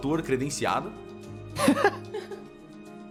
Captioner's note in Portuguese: Risadas